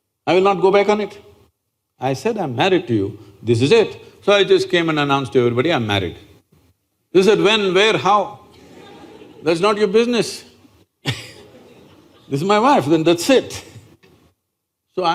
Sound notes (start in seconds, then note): 8.5 laughter